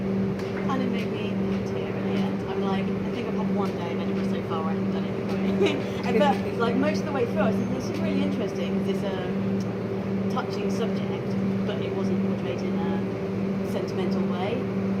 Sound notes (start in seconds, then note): 5.3 laughs